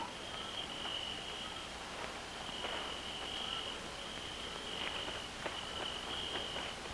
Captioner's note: chirping; rustling